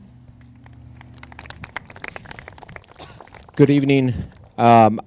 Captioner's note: crowd claps